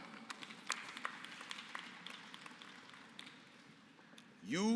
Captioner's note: applause